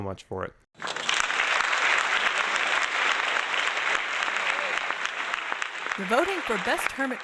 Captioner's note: applause